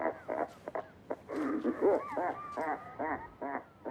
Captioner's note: laughing